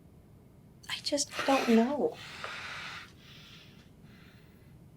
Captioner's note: heavy breathing